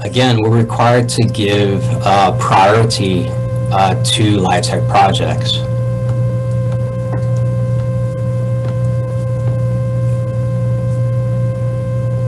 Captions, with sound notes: - Again, we're required to give priority to LIHTC projects. (buzzing sound)